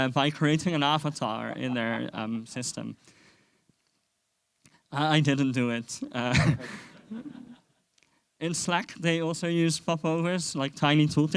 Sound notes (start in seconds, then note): 6.0 chuckles